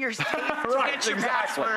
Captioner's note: laughter